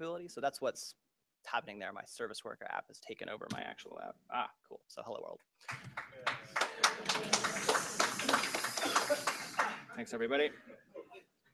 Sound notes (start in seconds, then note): 5.6 applause